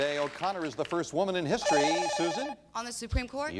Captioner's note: bell rings